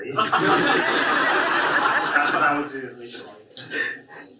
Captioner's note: audience laughs